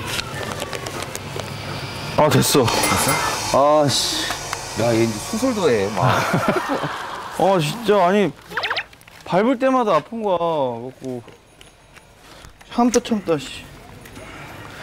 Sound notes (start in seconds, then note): 8.3 whining